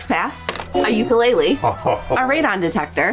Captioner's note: chuckling